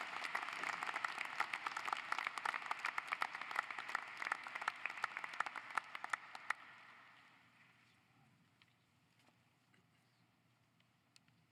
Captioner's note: applause